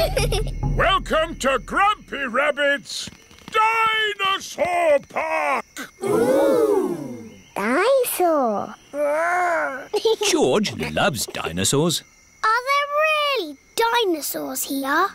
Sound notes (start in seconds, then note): 0.0 children giggling; 10.7 giggles